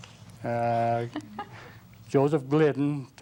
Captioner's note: laughs